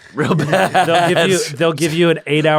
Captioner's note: laughs